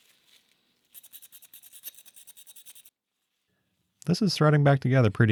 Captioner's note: metal scratching